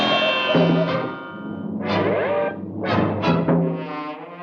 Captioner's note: Fido thudding; disorienting music